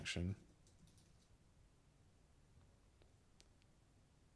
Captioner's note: silence